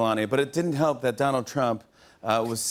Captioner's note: none